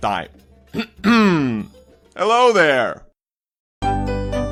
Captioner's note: coughs